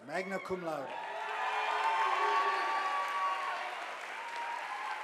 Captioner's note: audience applauding